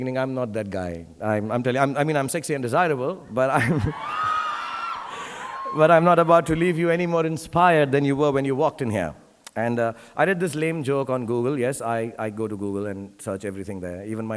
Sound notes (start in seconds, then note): 3.7 audience cheering